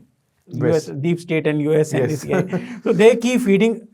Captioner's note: laughing